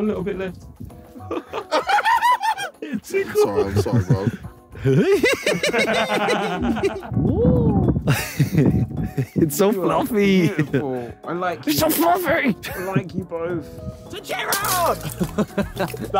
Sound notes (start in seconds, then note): 1.2 laughing; 14.9 laughing